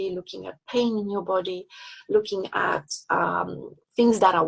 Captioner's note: none